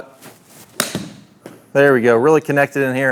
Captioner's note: ball smacking